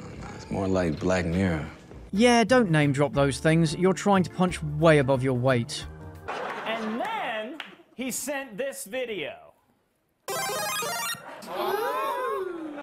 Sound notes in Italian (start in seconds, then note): 10.2 suono di mario che diventa più grande